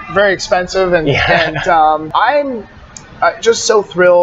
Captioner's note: laughs